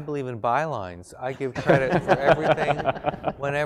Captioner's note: laugh